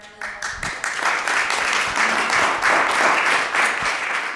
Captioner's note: applause